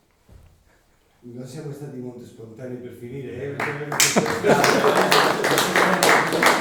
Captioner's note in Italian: Applausi